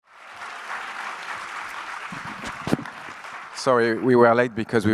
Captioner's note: audience applauds